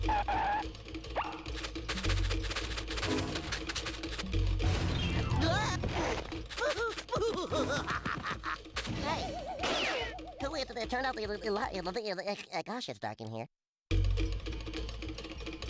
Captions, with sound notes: [skidding] [Porky grunts] [laughing] [Porky stuttering] WHO TURNED OUT THE LI-- GOSH, IT'S DARK IN HERE.